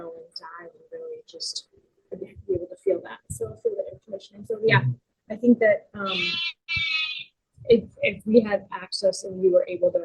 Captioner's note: sheep bleating